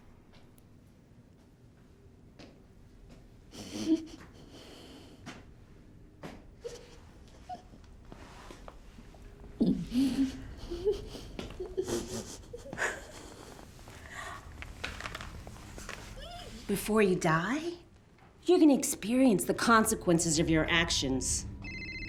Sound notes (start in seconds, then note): 4.4 muffled breathing; 7.2 whimpering; 21.6 phone ringing